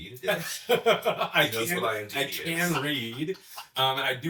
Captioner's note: laughs; chuckling